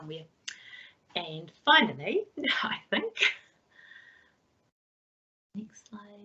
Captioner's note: laughs